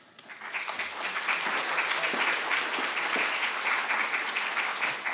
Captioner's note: audience applauding